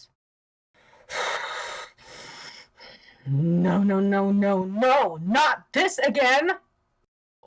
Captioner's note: huff, puff